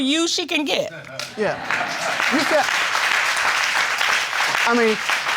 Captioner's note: crowd applauding